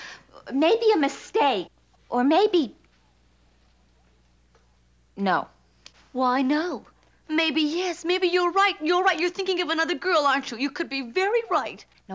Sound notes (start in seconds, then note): none